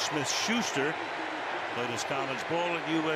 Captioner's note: cheering